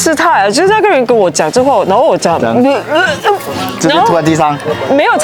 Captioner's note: 呕吐